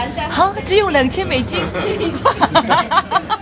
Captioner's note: laughs